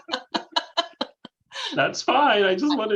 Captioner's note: laughter